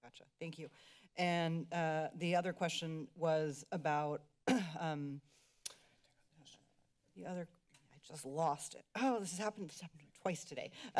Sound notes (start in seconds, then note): 4.5 clears throat